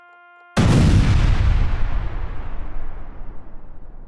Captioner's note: bangs